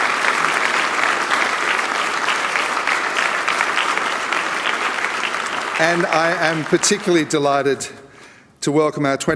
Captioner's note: applause